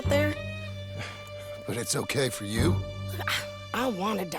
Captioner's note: scoffs